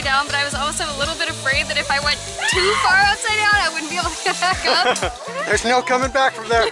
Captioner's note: laughter